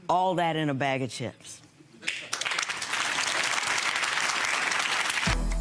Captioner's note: audience applauds